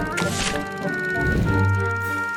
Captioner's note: paper rustles; intriguing music